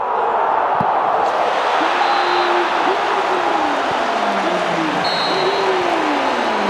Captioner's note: crowd roaring